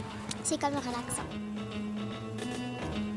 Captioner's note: speaking French